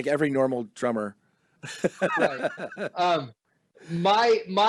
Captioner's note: chuckle